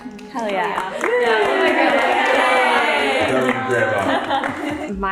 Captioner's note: everyone applauding